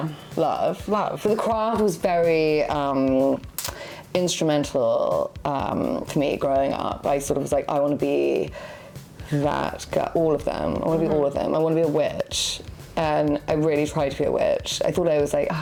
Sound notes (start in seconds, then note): 3.7 tongue clicks